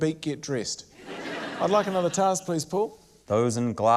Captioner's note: laughter